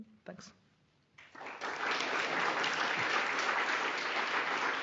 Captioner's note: applause